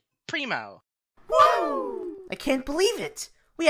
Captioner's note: Team 5 cheers